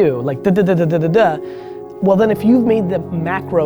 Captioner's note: none